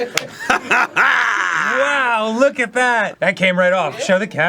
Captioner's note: cackles triumphantly